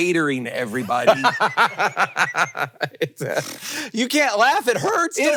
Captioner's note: Hank laughing